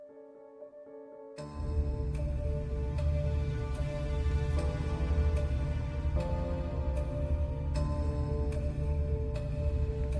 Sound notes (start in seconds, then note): 1.2 ominous music builds; 3.3 discomforting rumble